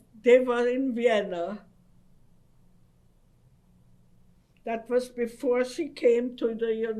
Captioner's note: pauses for 3 seconds